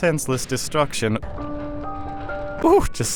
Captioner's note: Sounds of Sector 7's Senseless Destruction